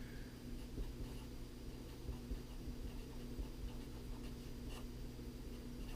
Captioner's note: pen writing on paper